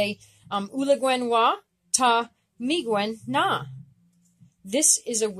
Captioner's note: speaking Abenaki